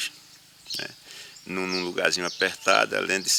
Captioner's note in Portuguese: Canto de pássaros